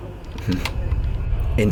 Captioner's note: click